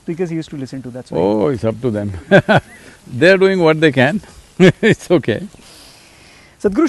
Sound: laughs

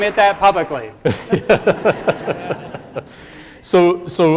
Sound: laughing

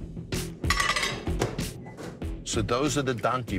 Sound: plate clattering

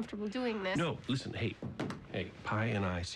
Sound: cell phone thuds

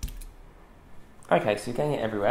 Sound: thumping

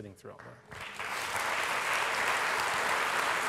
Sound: applause

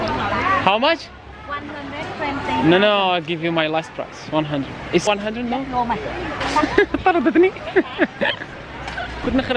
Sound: giggles

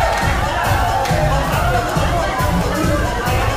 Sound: indistinct chatter

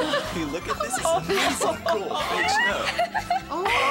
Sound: rest laughing

